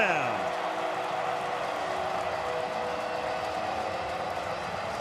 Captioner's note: cheering